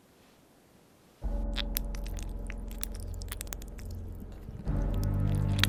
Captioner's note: clicking